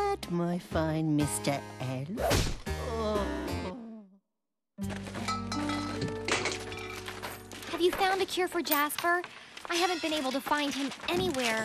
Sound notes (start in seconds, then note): 3.8 groaning